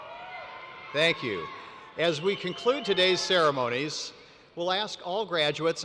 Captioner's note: cheers